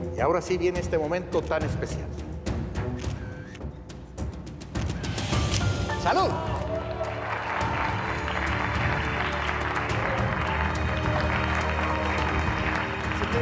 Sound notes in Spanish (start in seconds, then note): 2.8 clic de las cámaras; 8.2 aplausos